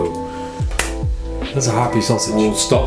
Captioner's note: snaps